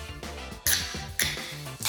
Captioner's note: hissing sound